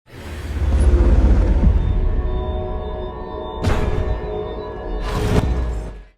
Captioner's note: locking mechanism clicking over futuristic sounds